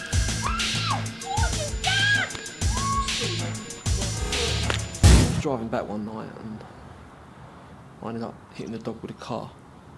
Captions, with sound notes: (screaming) - What have you done! (struggling) - I was driving back one night, and... I ended up hitting her dog with a car.